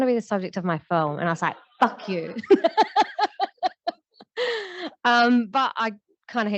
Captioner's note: laughter